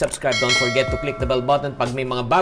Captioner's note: bell